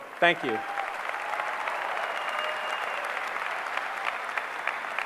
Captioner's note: applause